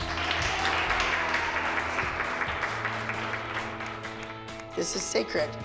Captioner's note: applause